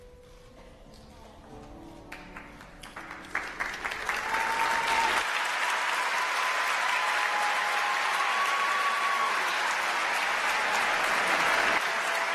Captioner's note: applause